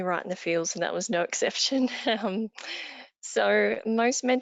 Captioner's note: chuckles